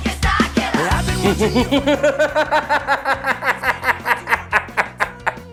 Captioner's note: Jim laughing maniacally